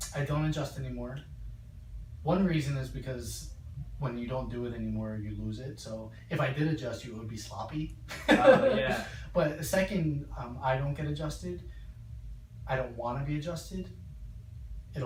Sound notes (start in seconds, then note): 8.2 laughs